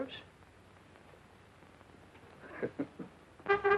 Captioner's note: Red chuckling